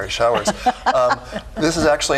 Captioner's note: laughing